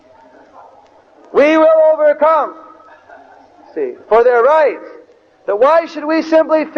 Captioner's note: devotees laugh